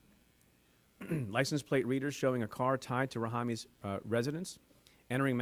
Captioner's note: clears throat